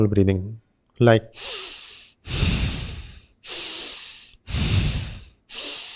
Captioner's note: breathing strongly